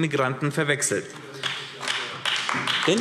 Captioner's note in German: Beifall AfD